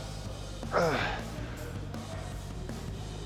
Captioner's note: Sheamus grunting; upbeat rock music continues